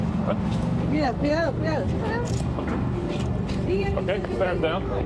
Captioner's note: background conversations